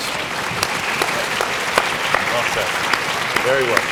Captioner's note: audience clapping